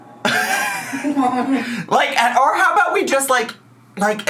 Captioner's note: laughs